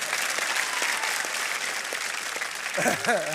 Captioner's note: cheering and applause